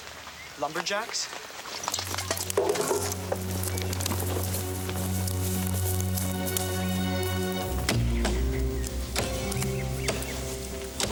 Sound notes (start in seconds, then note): 2.2 ominous music; 9.0 chopping wood